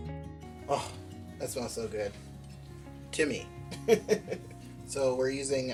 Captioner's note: laughs